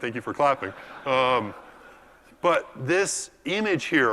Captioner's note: laugh